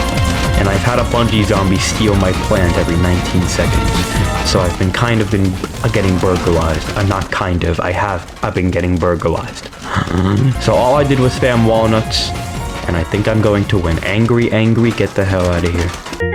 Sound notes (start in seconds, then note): 9.7 inhales Oxygen